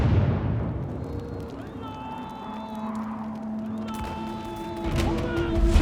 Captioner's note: drums; horn sounds; battle cries